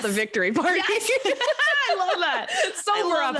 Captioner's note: laughs